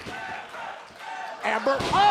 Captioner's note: fans chanting